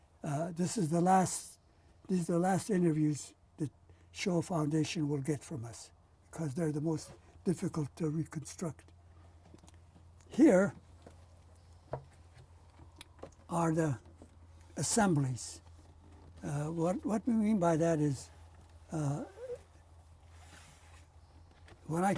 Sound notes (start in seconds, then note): 11.0 pauses for 3 seconds